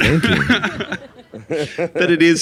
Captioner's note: all laughing